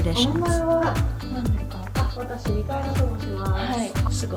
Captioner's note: speaking Japanese